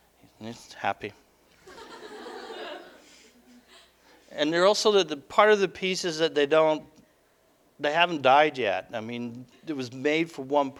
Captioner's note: audience: Laughter